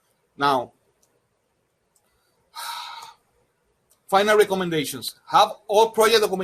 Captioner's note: sighs